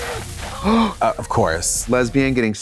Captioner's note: sprinkler spraying